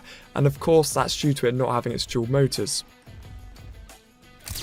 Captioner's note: camera snap noise